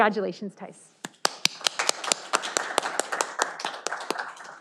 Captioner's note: audience applauding